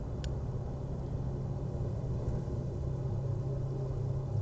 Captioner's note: lighter clicking